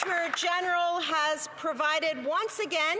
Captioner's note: applause